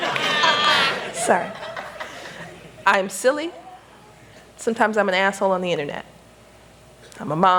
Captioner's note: laughter